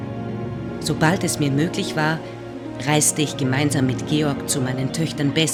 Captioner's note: German speaking continues